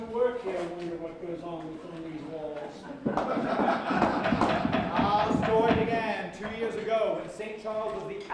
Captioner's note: laughter